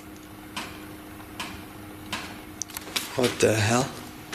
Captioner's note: rapid banging